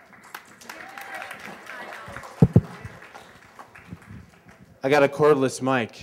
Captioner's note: applause